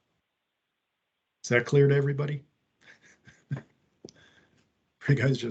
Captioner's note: laughs